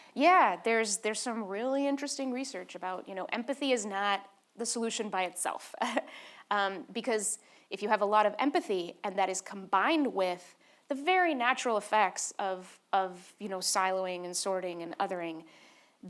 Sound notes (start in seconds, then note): 6.0 laughs